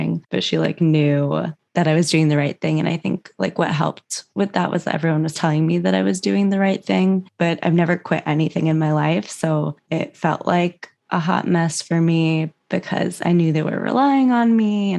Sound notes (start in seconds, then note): none